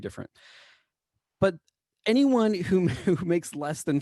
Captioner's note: laughter